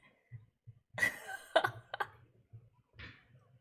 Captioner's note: laughs